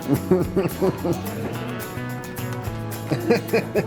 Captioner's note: laughs